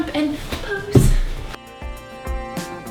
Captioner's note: floor thuds